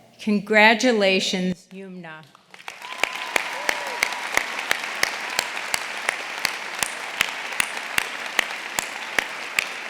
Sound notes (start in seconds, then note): 2.4 audience applauding; 2.6 audience cheering